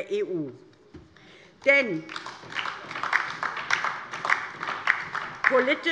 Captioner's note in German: Beifall DIE LINKE